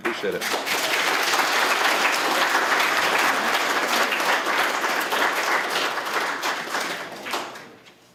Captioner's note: applause